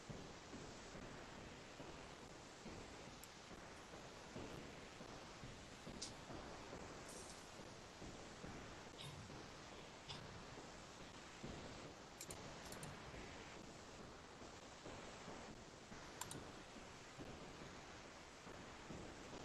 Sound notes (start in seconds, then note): 12.5 computer mouse clicks